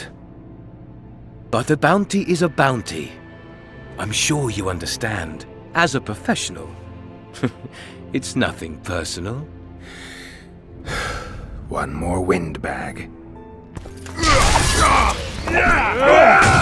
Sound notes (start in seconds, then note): 10.9 sigh